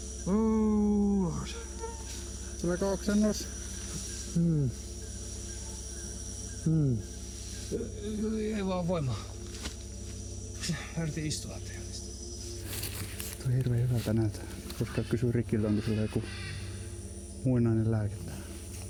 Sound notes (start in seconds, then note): 3.8 painful vocalization